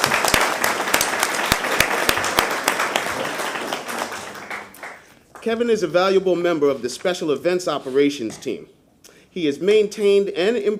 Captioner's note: applause